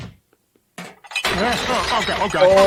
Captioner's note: glasses clattering